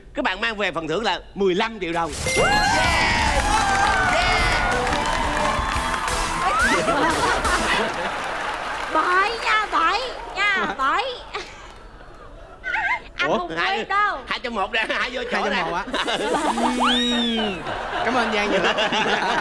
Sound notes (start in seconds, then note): 6.5 laughing